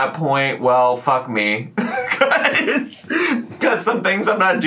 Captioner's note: laughs